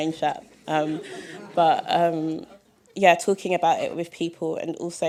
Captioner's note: laughter